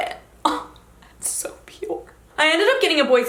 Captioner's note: gasps